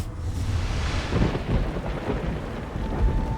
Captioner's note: thunder crashes